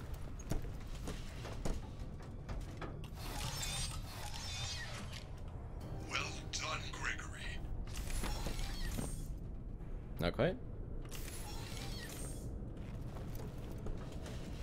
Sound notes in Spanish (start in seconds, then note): none